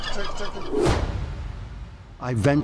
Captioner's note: thud